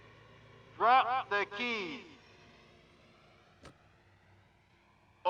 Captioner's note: keys thud